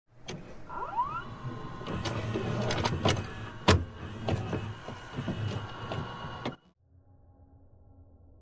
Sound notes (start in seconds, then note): 0.2 VHS noises